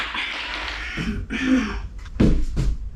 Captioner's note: clears throat